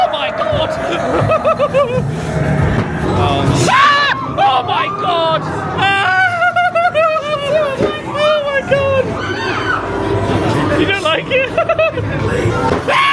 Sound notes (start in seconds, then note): 0.0 everybody screaming; 1.6 laughs; 2.4 spooky music; 3.9 guests screaming; 5.5 yelps; 9.3 guests screaming; 12.3 laughs; 12.8 spooky music; 12.8 screaming